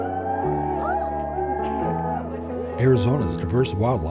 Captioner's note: crowd cheering